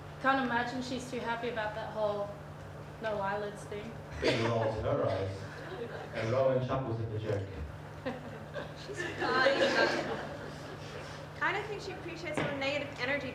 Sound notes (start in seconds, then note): 7.9 chuckles; 8.0 audience laughter